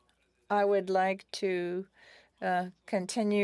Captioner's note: speaking French